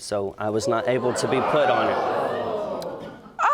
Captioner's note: audience gasps